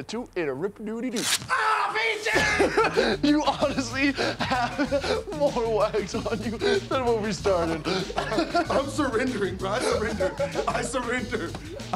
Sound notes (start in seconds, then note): 7.7 laughter